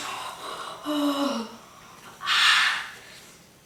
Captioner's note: groaning in pain